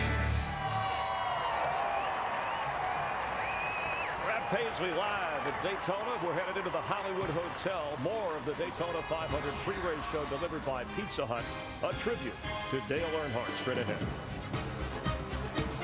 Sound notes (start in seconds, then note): 2.2 applause